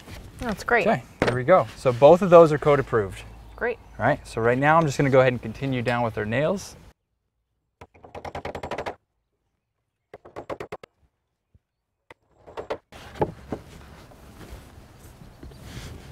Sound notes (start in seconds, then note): 7.8 fast tapping of metal hammer hitting metal nails, no additional audio; 11.4 thud of wood against wood, shuffling of boots on dirt, no additional audio